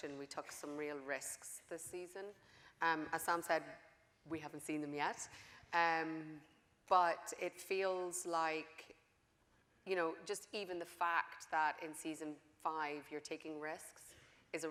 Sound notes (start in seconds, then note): none